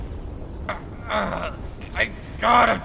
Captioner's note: groan of a thousand hangovers